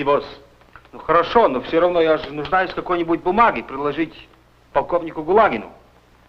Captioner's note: foreign language